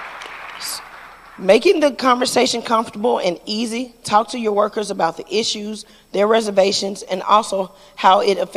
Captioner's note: applause